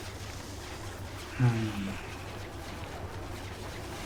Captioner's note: sighs